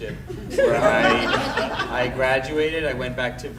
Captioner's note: audience laughing